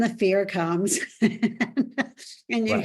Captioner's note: laughs